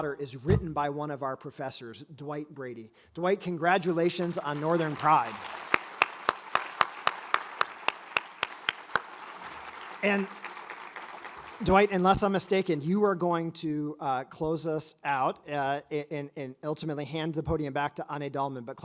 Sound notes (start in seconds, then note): 4.3 all applaud